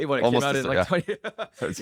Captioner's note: laughs